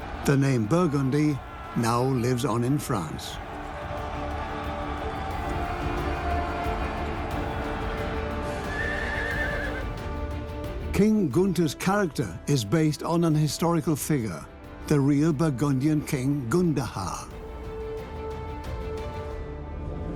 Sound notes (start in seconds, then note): 3.6 battle cries; 8.6 horse neighs